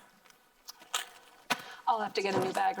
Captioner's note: plastic rustling